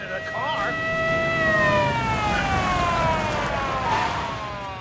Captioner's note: sirens blaring